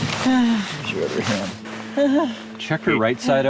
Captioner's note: groaning